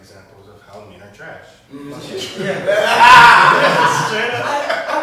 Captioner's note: laughing